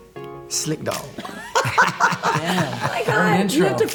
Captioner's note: laughter